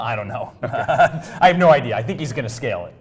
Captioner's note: laugh